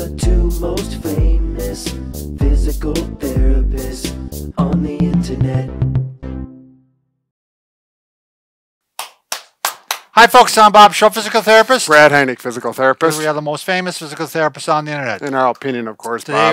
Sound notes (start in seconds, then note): 8.9 hands clapping